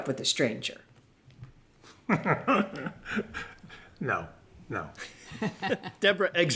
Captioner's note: laughs